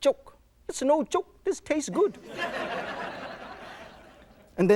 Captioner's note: audience laughs